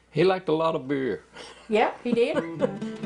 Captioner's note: laughs